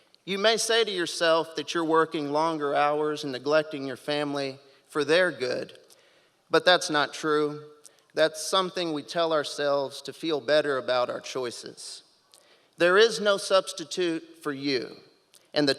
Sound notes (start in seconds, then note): none